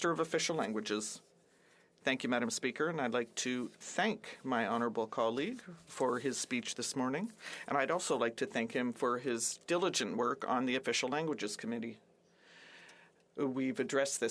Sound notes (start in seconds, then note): 5.3 speaking French